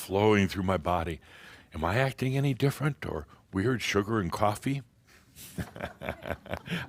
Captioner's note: Adamus chuckles